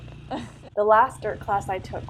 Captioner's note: laughing